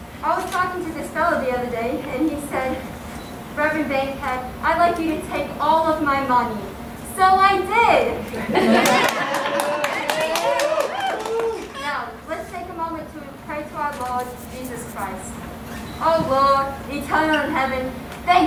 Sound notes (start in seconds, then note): 8.7 cheers and Applause